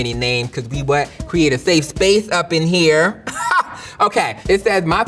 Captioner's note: laughs